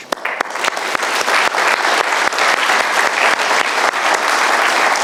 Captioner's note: audience applauding